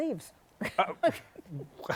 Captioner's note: laughs